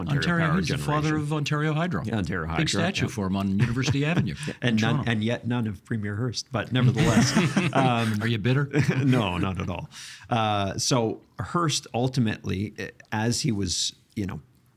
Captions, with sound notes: Ontario Power Generation. He's the father of Ontario Hydro. Ontario Hydro. Big statue for him on University Avenue in Toronto. And yet none of Premier Hearst, but nevertheless. (All laughing) Are you bitter? No, not at all. Uh, so Hearst ultimately, as he was, you know,